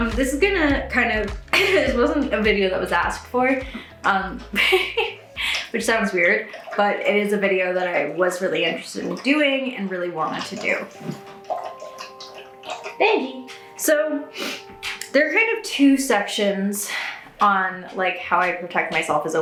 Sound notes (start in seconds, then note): 4.5 chuckles; 10.2 Benji slurping